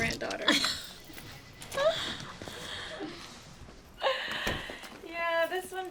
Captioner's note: Candace and Allie laughing